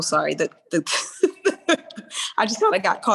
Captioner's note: laughing